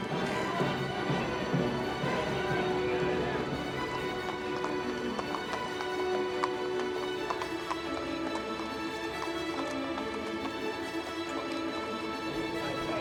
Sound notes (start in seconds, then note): 0.2 marching band music; 4.1 hooves clopping